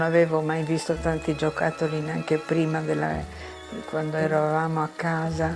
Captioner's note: speaking in foreign language